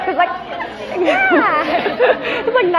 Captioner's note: laughs